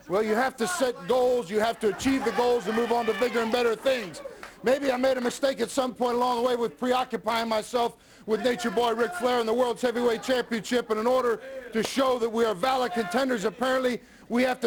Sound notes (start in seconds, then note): 1.9 crowd chatter